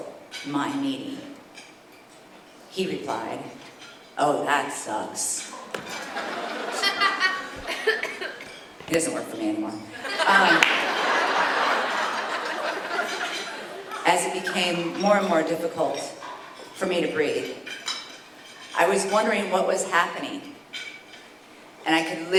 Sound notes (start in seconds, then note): 10.3 applause